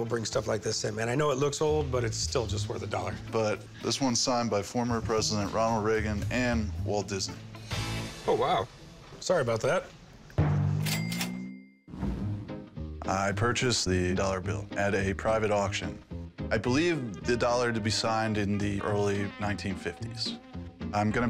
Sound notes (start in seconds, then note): 10.8 cash register dinging